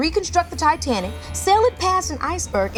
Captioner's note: horn blows